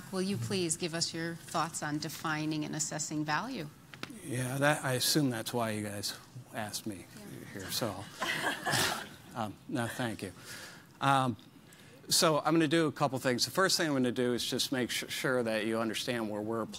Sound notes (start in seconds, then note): 8.1 laughing